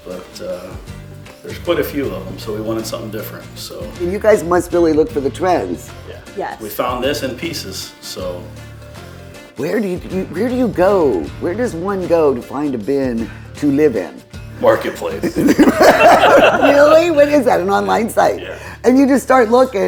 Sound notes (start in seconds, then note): 15.3 everyone laughing